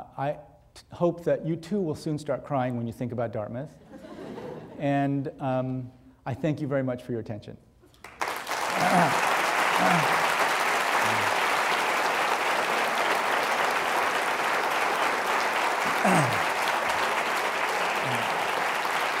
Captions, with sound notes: but I hope that you, too, will soon start crying when you think about Dartmouth, (audience laughing) and I thank you very much for your attention. (audience clapping)